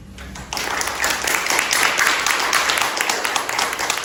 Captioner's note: applause